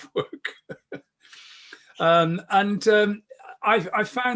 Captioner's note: chuckles